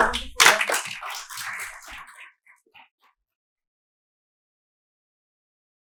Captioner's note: applause